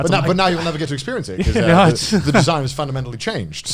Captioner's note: laughs